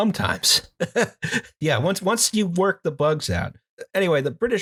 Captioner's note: laughter